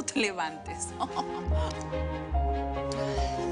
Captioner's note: Ríe